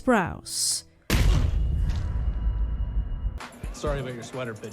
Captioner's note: dramatic sound effects